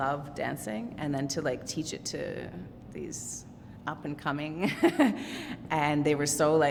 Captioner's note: chuckles